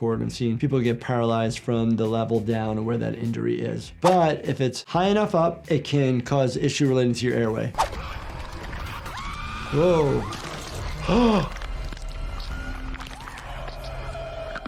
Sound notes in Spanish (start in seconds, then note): 9.0 mujer grita; 11.0 jadea